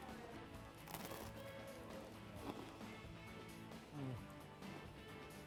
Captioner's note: crunching